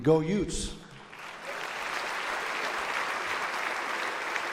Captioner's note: audience applauds